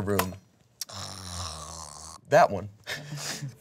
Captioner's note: snores